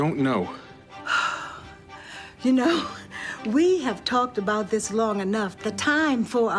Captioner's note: sighs